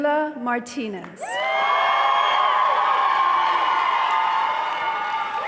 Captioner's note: audience cheering